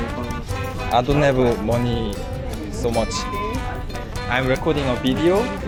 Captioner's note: voice suddenly losing confidence